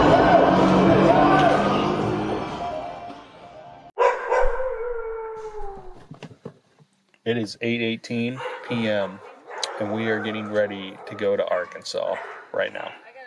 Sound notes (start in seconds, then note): 4.0 dog barking